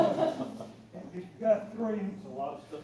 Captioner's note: laughter